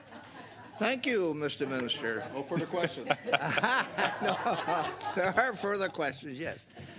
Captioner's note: laughter